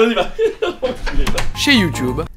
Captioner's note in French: Rires